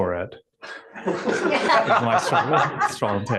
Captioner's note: laughter